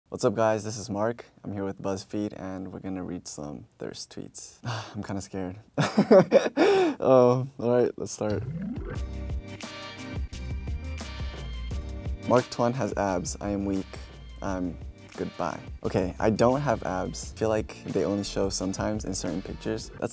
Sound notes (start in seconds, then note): 5.8 he laughs; 9.1 upbeat music